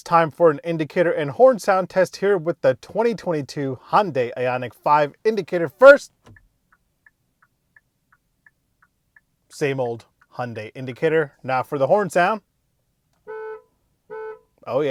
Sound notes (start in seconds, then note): 6.0 indicator sound; 14.0 horn honking